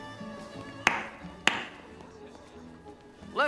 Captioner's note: clap clap